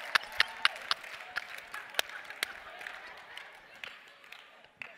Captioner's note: Aplausos